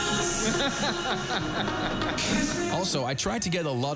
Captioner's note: laughing